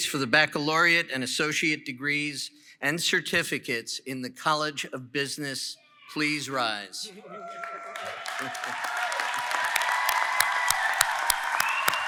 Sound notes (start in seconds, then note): 7.2 applause & Cheering